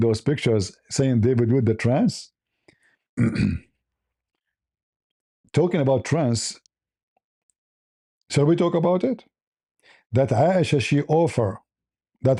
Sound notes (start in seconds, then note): 3.2 clears throat and cough